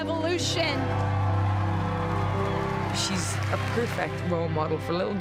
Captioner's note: cheers and applause